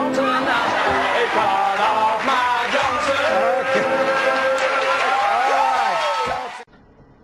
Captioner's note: thunderous applause